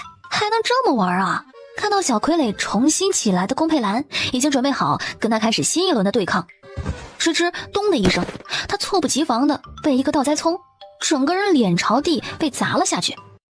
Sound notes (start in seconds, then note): 6.7 thud!